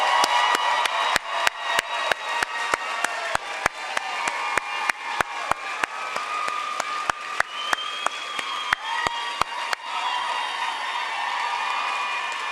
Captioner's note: applause